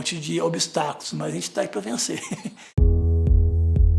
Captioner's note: laughter